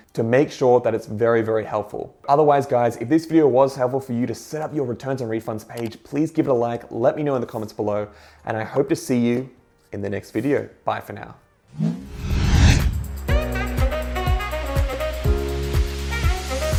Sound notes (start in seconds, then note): 11.7 transition whoosh; 12.5 instrumental music